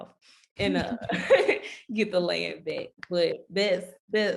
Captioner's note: laughing